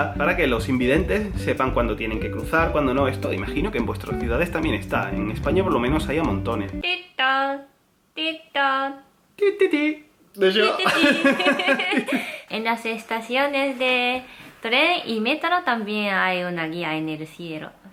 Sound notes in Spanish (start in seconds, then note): 10.6 Risas